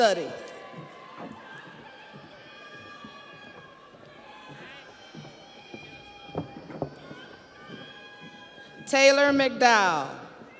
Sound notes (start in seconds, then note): 5.9 audience applauds; 5.9 audience cheers